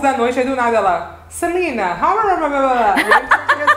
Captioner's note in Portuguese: balbuciando